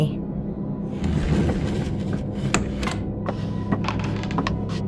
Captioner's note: chairs scraping, footsteps